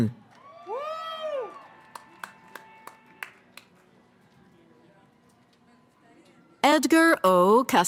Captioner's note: cheering